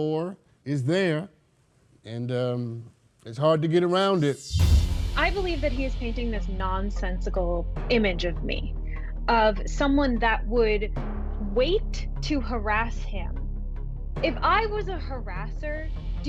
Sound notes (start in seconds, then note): 6.2 logo whooshing